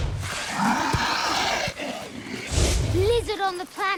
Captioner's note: angry hissing